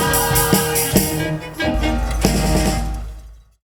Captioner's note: SOUNDS of a BULLDOZER & WALLS COLLAPSING